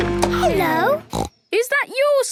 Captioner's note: snorts